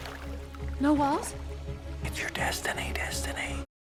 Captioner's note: whispering